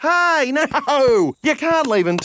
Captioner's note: laughing